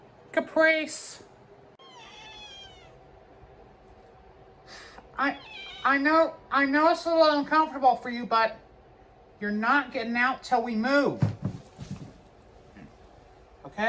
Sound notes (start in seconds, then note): 1.8 Caprice meows; 5.3 Caprice meows